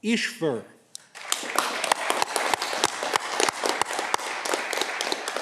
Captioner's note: audience clapping